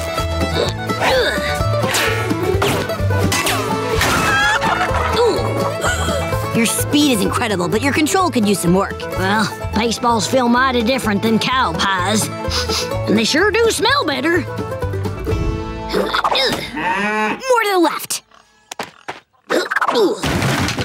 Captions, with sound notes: [grunting] [clucking] Ooh. [gasping] Your speed is incredible, but your control could use some work. Well, baseball's feel mighty different than cow pies. [sniffing] But they sure do smell better. [grunting, mooing] More to the left. [grunting, thudding]